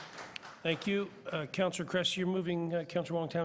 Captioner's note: applause